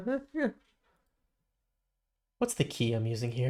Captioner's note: silence